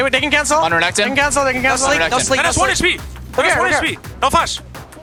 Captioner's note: teammates communicating